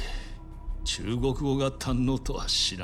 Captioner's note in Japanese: 鼻息